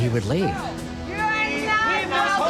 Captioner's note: all together screaming